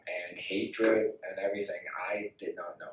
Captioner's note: none